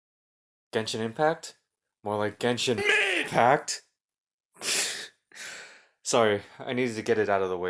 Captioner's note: break out laughing